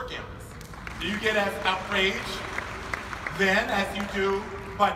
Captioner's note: audience applauding